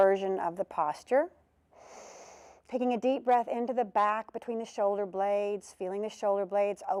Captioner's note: breath sound